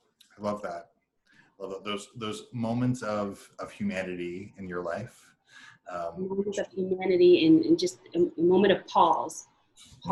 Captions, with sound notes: - I love that. Those moments of humanity in your life (murmurs) - Humanity in just moment of pause.